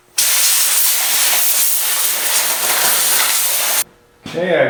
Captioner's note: air blowing